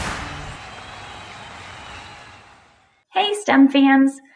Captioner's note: crowd applauding